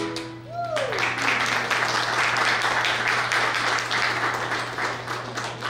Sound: applause

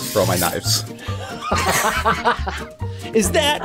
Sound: laughing

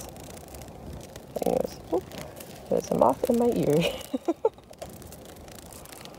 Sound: laughs

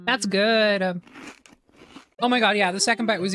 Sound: chewing

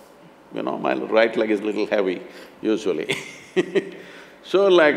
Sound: laughs

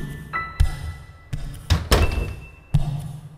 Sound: door closes

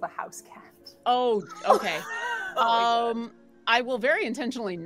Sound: laughs

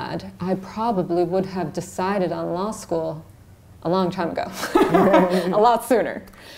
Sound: laughs

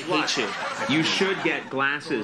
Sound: audience laughs

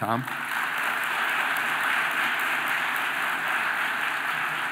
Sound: audience applauding

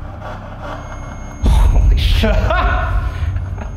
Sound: tool beeps

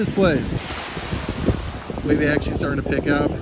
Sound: waves rushing

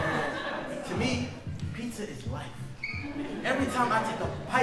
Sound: audience laughing; audience laughing

